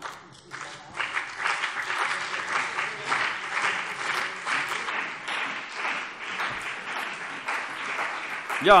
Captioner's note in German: Beifall CDU und BÜNDNIS 90/DIE GRÜNEN